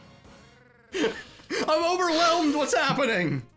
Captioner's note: laughs